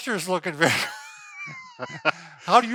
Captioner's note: laughs